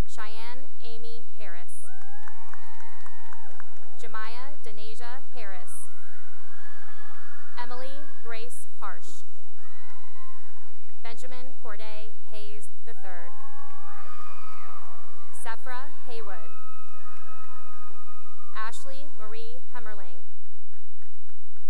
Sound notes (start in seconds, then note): 1.8 cheering and applause; 6.3 cheering; 9.3 cheering and applause; 13.0 cheering and applause; 17.4 cheering; 20.6 applause